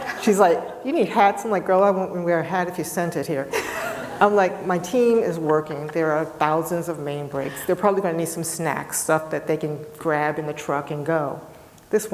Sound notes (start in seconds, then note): 3.5 people laughing